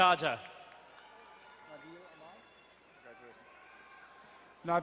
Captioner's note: crowd cheering and applauding